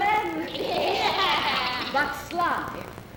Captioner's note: women voice agreement